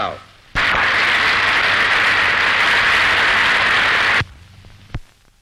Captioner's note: applause